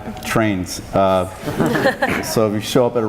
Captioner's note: laughing